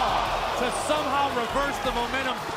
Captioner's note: crowd cheering